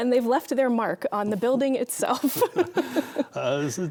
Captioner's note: laughing